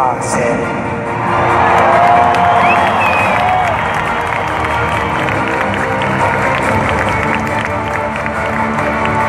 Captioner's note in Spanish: aplausos